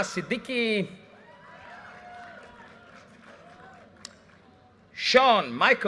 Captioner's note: audience cheers and applause